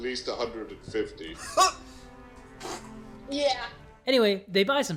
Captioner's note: stifle laughter